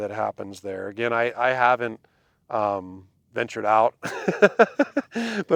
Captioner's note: laughs